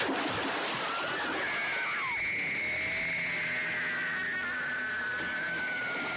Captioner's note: water splashing; Carrie screaming